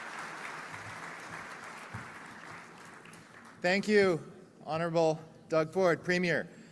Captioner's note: loudly/shouting; applause